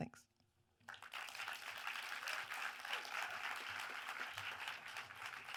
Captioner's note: audience applauds